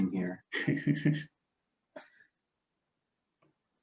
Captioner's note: laughs